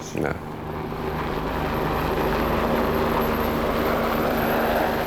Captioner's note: helicopter noise